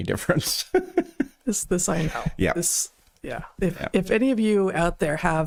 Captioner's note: laughing